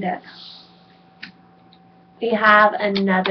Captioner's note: clicks